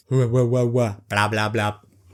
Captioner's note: stupid noises